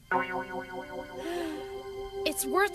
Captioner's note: sighing